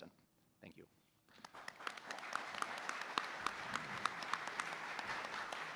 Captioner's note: applause